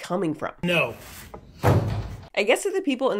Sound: vegetables thudding

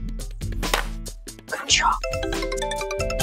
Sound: phone rings

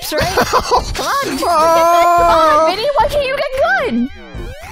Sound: laughs; moans

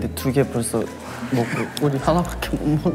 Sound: holding laughter

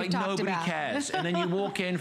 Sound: laughter

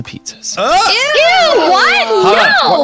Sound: in Unison

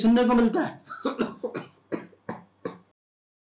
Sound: coughs

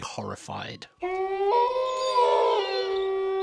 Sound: sound of wolf howling

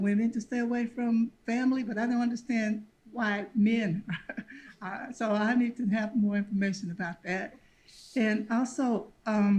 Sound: laughs

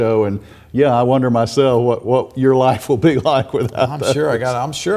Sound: chuckles

